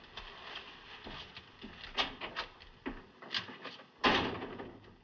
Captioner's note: door Opens, Closes